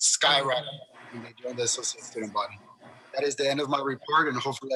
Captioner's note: faintly speaking